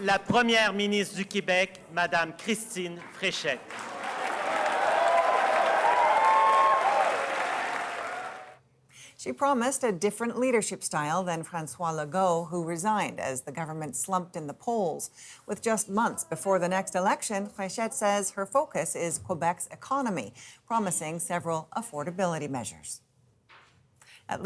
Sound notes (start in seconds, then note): 3.8 speaking French; 4.5 applause